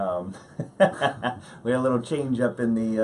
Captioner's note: laughing